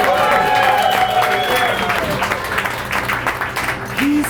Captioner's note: audience cheering